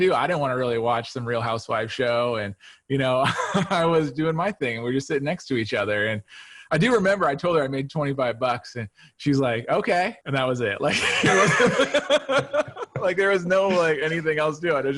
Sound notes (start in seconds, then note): 3.2 chuckles; 10.9 both laughs